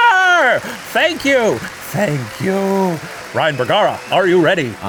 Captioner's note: audience applauding